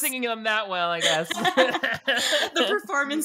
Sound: both laughing

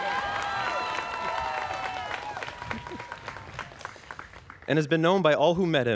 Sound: students cheering

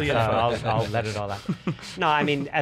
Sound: laughing

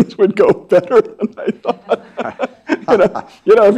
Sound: laughs

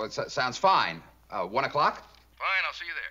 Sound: on phone

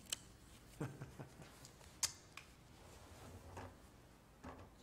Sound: chuckles

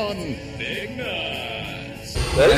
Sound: radio voice

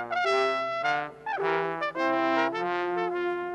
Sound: none

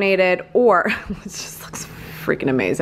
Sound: laughing

